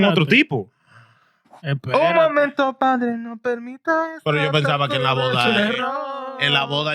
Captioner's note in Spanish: Hablando en idioma extranjero